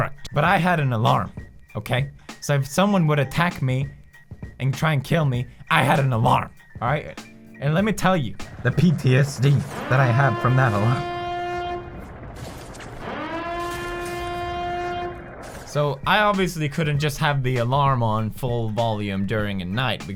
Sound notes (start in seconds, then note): 12.9 alarm Sound